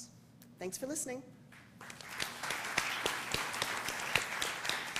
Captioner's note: applause